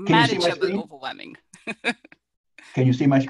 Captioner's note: laugh